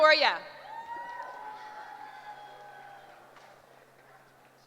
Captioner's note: cheering